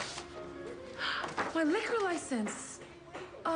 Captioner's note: pleasant piano playing; gasps